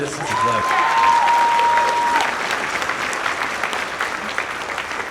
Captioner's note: audience applauds and cheers